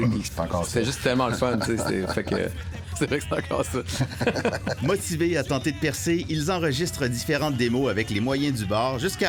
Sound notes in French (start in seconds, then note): 3.8 rires